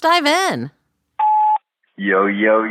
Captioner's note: sfx: beep, new message